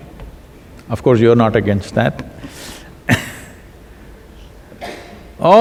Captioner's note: laughs